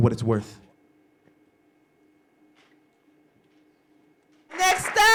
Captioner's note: applause